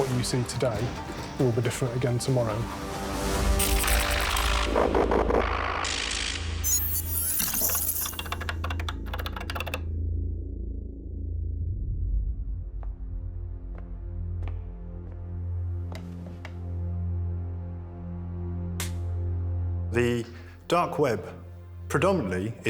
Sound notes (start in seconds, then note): 3.4 electricity buzzing; 8.7 keyboard typing; 18.5 clapperboard claps